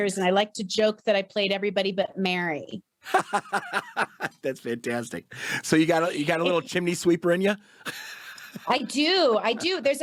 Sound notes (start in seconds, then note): 3.1 laughs; 7.9 chuckles